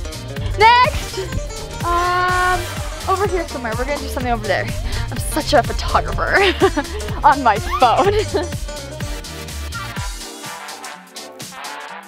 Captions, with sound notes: Next! Um, over here somewhere. We're gonna do something over there. I'm such a photographer. (laughs) On my phone. (lively music continues)